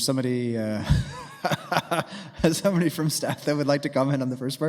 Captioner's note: laughing